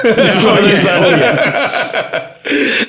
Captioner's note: all laughing